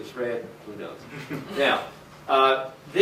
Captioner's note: laughter